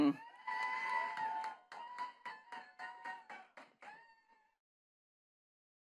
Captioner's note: attendees cheering and clapping